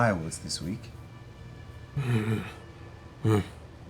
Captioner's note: affirmative grunt